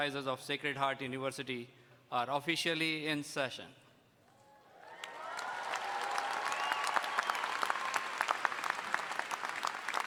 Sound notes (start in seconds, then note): 4.8 audience cheering and applauding